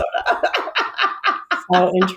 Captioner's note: laughs